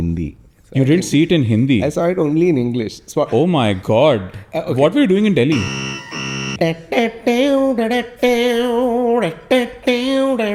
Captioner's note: humming